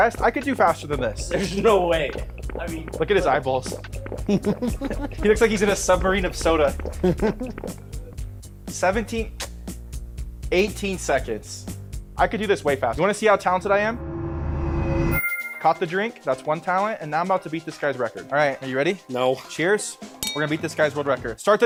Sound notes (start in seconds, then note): 4.2 group laughing